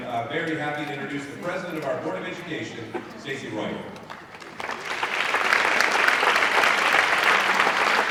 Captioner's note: applause